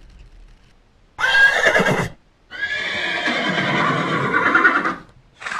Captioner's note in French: hennissement de cheval